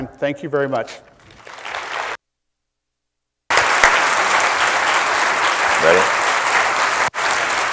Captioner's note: applause